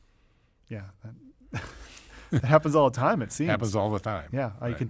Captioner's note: laughs